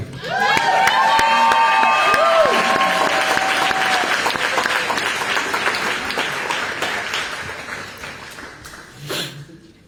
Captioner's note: applause